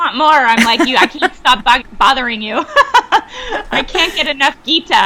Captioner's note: laughs